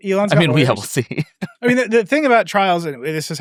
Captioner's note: chuckles